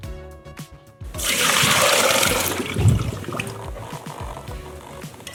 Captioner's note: pouring water; soft upbeat music